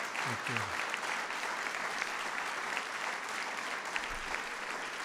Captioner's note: applause